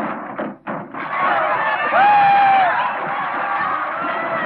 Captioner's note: yelling